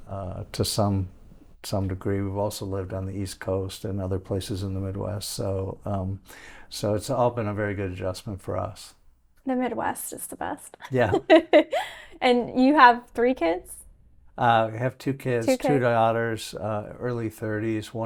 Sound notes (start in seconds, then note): 10.9 chuckling